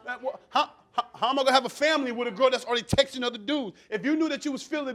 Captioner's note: stammering